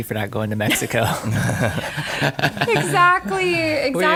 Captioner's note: laughter